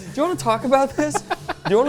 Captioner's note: laughs